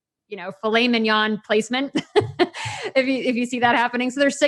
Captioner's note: laughs